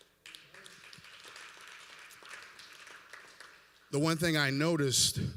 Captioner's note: applause